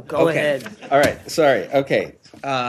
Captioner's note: laughter